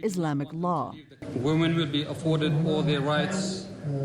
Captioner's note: through translator